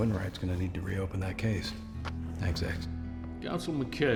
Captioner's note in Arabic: النقر